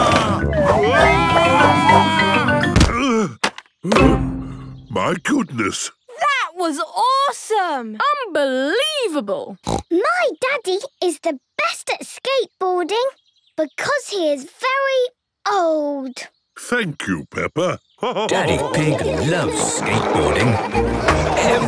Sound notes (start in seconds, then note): 3.9 panting; 9.6 snorts